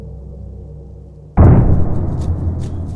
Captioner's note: loud boom